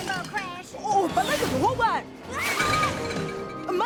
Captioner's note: continues speaking in native language